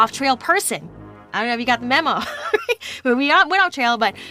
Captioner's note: laughs